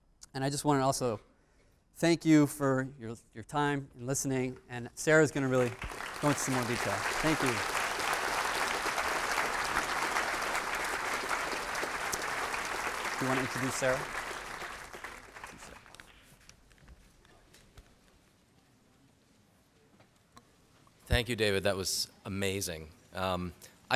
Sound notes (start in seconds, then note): 9.6 applause